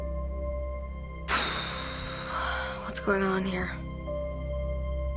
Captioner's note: exhales sharply